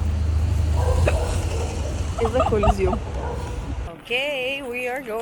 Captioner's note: hiccups